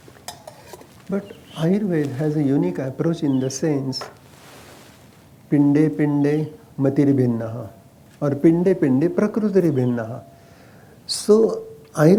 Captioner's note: speaks in Sanskrit – not transcribed